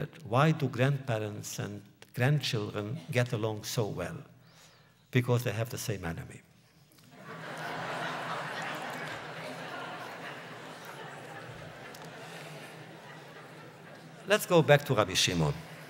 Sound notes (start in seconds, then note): 9.2 laughter